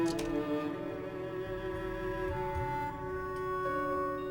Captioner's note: none